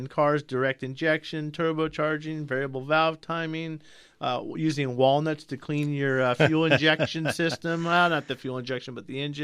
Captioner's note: laughs